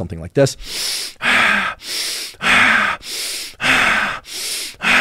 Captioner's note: inhaling, exhaling